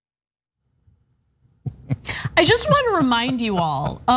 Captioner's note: laugh